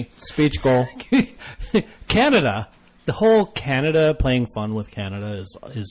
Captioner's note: DJ laughs